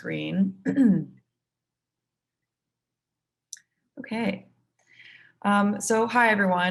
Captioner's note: cough